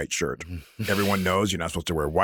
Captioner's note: chuckles